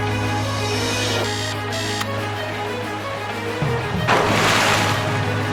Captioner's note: upbeat music plays; alarm rings; water splashes